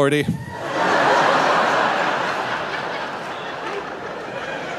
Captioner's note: audience laughing